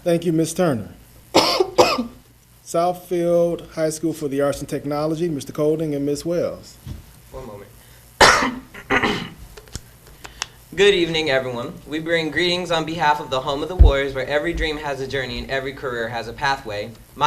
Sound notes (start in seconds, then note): 8.2 coughs